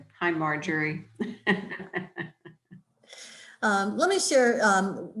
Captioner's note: laughing